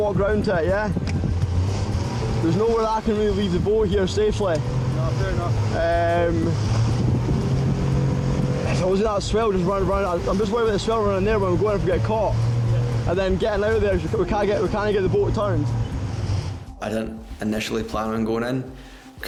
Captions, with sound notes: and you just walk round to her, yeah. There's nowhere I can really leave the boat here safely. - No, fair enough. (boat engine revving) - That swell, just run around. I'm just worried the swell running around there, we're going to get caught. And then getting outta there, we cannot get the boat turned. I didn't initially plan on going in.